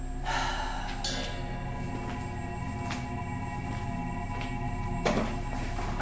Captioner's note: deep sigh; footsteps